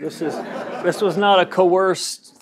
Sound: laugh

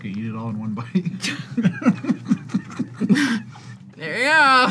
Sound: both laugh

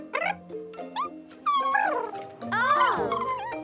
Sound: purring

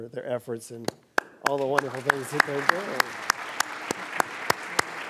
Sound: speaks off microphone

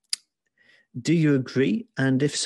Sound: none

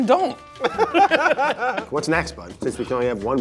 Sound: both laugh

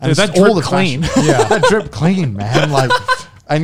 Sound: men laughing

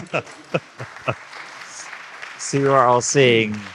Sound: laughing; audience clapping

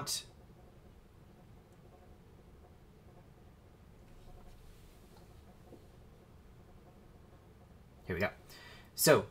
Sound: silence

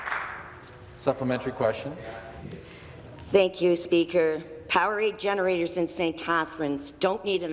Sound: applause

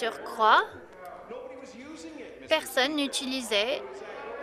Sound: crowd Noise

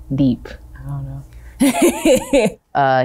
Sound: laughs

